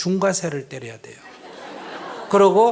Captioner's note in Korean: 청중 웃음